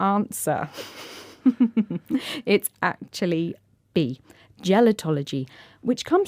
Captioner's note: laughing